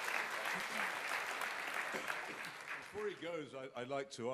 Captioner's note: applause